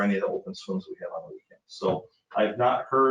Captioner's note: speaking faintly; speaking faintly